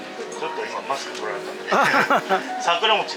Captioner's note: laughs